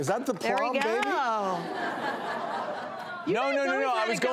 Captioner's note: audience laughs